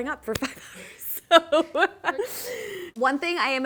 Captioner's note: laughing